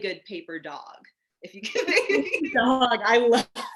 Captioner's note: laughing